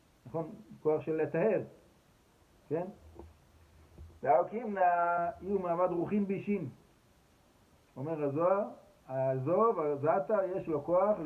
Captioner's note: aramaic